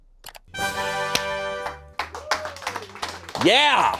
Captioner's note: horn sound